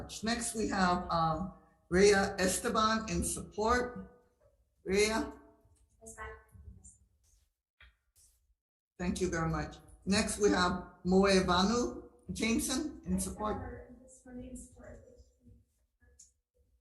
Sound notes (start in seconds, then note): 6.5 faintly speaking; 13.7 faintly speaking